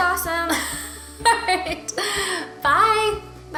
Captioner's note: laughing